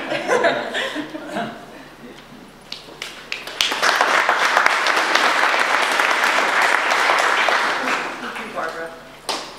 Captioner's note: audience applause